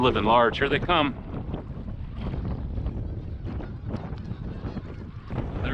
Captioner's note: wind Blowing